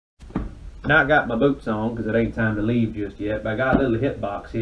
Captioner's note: noticeable yeehaw accent